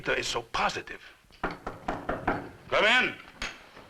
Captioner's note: knocking on door